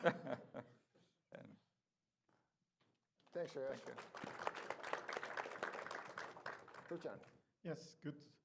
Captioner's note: applause